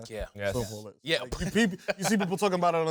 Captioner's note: laughs